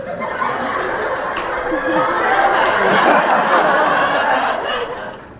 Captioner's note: canned laughter